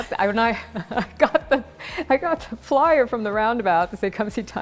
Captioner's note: laughs